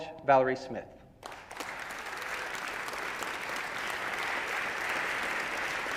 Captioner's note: audience applauding